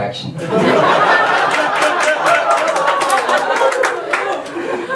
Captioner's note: audience laughs